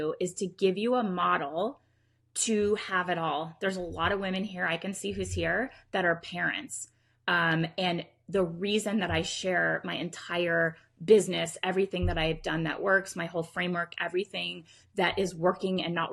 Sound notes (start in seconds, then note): none